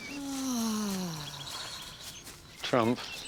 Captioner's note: sue sighs